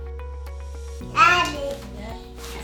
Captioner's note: babbles